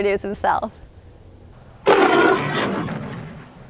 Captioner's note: roars